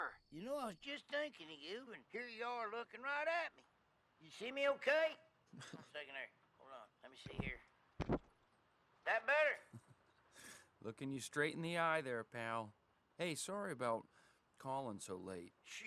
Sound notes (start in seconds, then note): 5.5 laughs